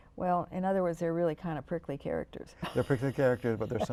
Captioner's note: laughs